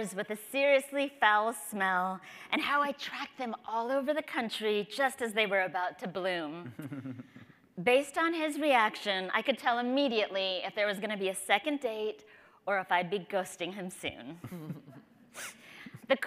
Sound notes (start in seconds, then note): 6.6 chucking; 14.4 chuckling